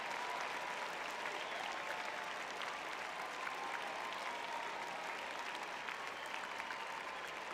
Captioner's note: audience applauding